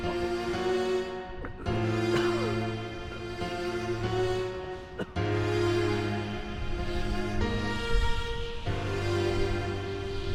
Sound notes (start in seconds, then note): 0.2 Asher coughing; 6.8 somber music; 6.8 wind whooshing